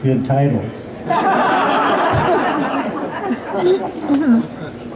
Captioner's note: laughter